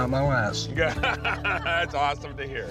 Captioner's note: laughter